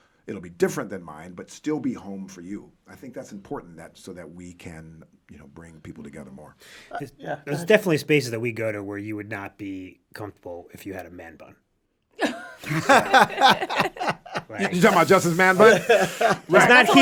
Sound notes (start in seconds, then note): 12.2 all laughing; 15.9 all laugh